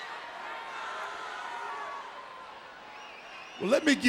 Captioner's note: crowd cheering